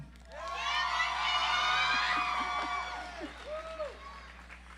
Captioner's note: audience applauds